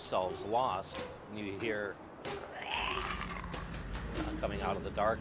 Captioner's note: snarling